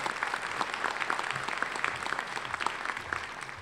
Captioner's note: applause